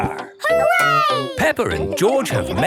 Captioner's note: laughing